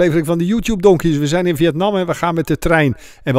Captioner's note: voiceover